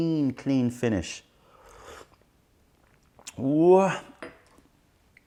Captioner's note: sips tisane